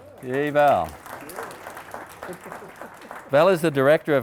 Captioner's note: audience applauding